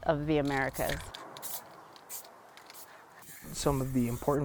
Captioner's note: spray can sounds